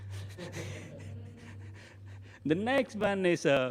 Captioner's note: laughter